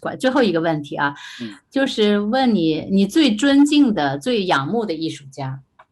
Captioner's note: speaking in foreign language